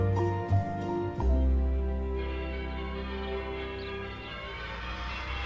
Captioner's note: bells Ringing